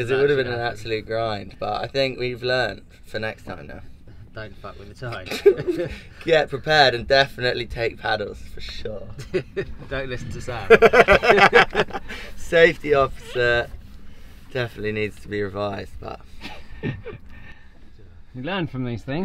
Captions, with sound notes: because it would have been an absolute grind but I think we've learned for next time now, don't mess with the tide get prepared and definitely take paddles don't listen to Sam (laughs) Safety Officer definitely needs to be revised but, you learn from these things